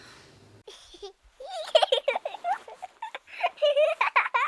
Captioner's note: child giggling